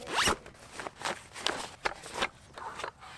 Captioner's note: zipper whizzes